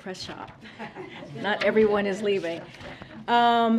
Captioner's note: laughter